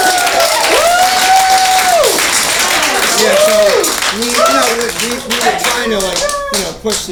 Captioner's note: applause